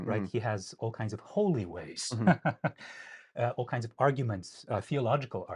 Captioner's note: laughing